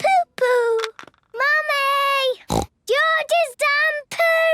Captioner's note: snorts